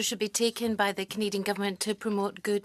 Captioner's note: speaking French